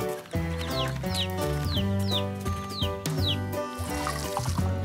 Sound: chicks peeping; water pouring

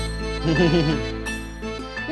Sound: laughs

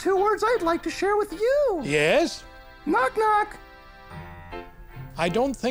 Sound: none

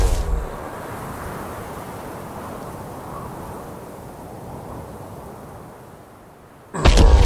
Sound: whooshing noises

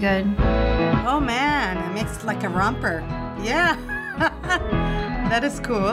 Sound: laughs

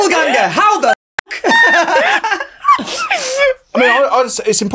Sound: both laugh

